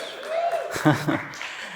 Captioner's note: laughs